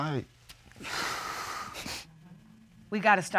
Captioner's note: exhales, sniffles